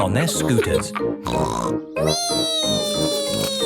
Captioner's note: snorts